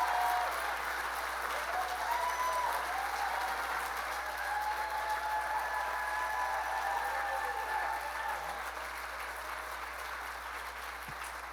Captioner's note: applause